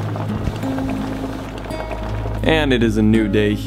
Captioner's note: peaceful guitar music; water boiling